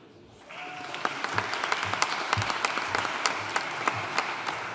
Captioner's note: audience cheering and applauding